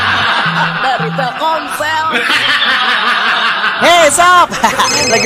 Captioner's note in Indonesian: tertawa